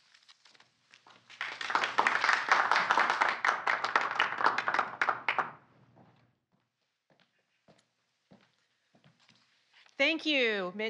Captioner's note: applause